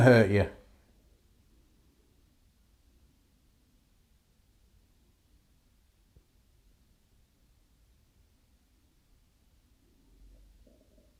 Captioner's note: silence